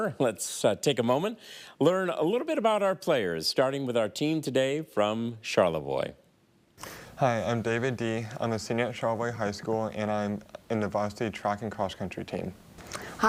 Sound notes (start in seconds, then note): none